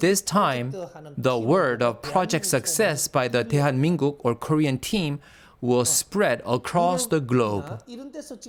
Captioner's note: Korean